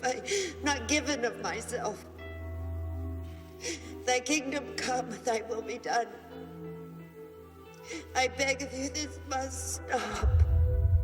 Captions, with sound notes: Have I not given of myself? (sobs) Thy kingdom come, Thy will be done. I beg of you, this must stop!